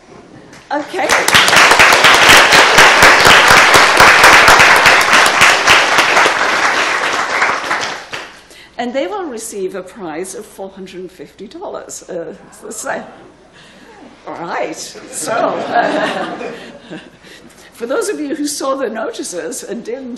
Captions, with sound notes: Okay. (audience applauding) And they will receive a prize of $450. All right. (audience laughing) For those of you who saw the notices,